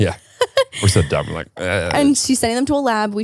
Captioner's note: laughs; groans